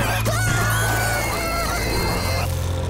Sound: screaming

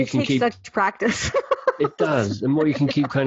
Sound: laughing

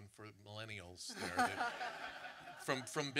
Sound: audience laughter

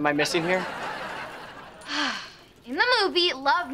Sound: sighing

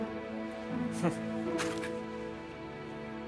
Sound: Collin chuckles

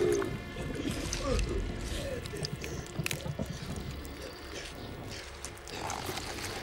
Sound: guts squishing; James groaning

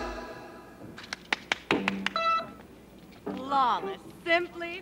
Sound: clapping

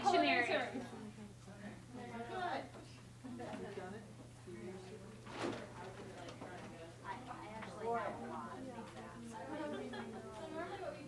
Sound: chatter

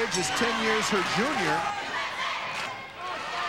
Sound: crowd cheering

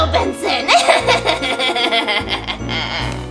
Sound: laughs

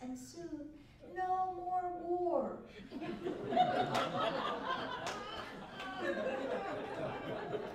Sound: laughter

